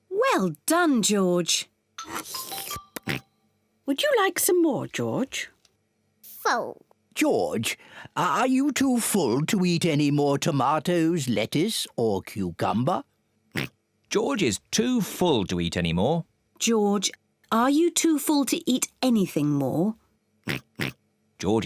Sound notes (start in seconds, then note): 2.0 slurps; 13.5 oinks; 20.4 oinking